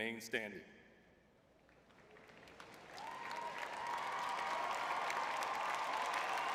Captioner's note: audience cheering